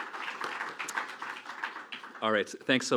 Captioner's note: applause